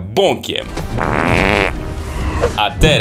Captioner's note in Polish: głośny pierd